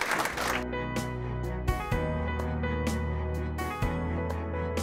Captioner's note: applause